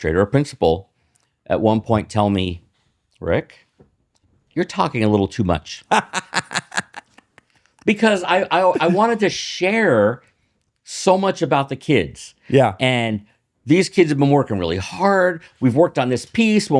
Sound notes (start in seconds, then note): 5.8 laughs